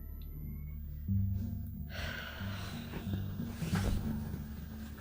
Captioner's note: sighs